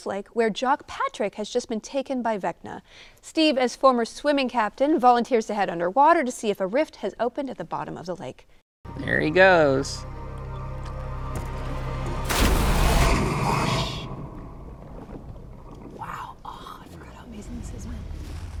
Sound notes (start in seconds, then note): 12.2 water splashes